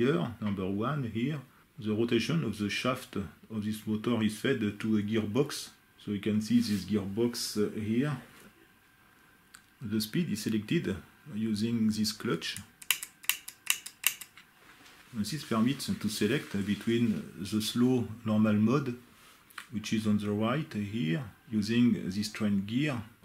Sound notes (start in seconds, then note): 12.8 clic clac clic clac